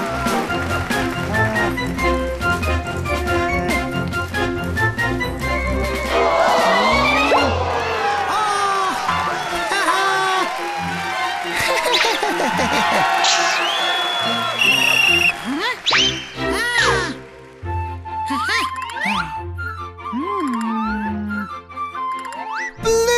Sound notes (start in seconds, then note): 7.5 applause; 13.4 whistle blows